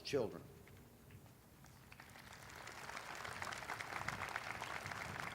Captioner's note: audience applauding